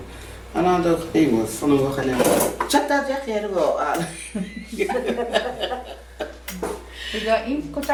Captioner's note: laughing